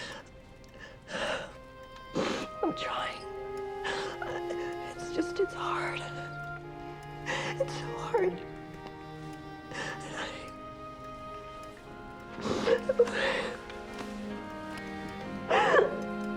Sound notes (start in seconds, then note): 0.7 sobbing; 3.6 sniffles